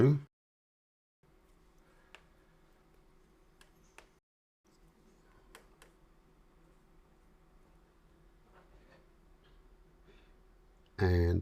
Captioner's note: silence